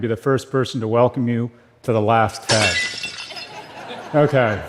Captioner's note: صدای خنده